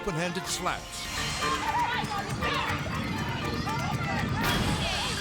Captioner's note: people shouting